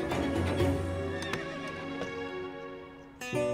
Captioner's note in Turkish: Hayvan sesi